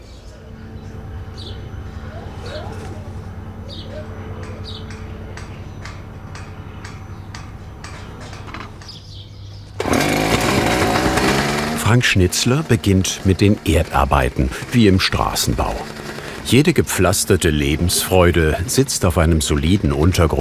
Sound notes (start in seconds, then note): 0.0 quiet roaring and babble of voices; 4.2 distant hammering; 9.7 motor roar